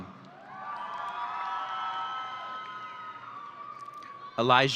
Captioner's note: audience cheering